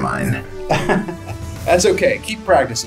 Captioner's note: laughs